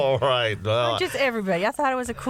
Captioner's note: laughter